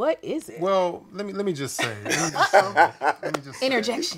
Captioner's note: laughing